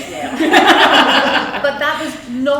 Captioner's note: audience laughs